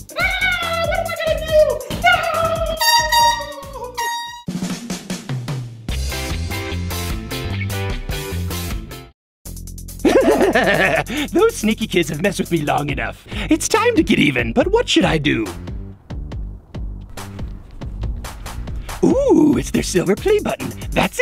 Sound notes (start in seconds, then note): 2.7 air horn sounding; 4.9 fun upbeat music